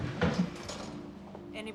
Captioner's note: door closing